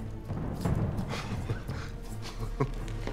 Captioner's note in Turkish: Gülme sesi